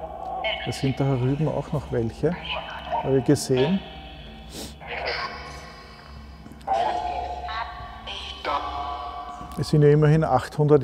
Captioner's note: whispered